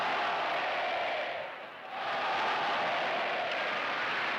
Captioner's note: cheers and applause